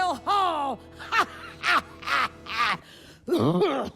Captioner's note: laughs; coughs